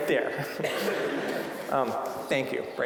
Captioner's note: audience laughing